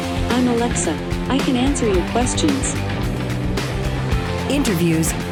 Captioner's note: computer Voice